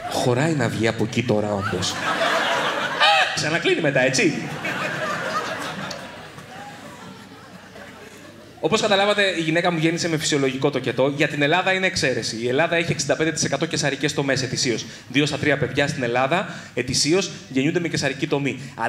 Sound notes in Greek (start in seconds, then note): 2.7 κραυγή τρόμου